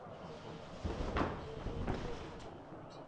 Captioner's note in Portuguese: Batidas de bandeira tremulante